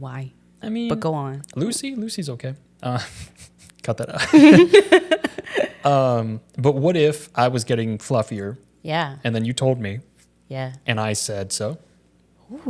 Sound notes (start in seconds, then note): 4.1 both laughing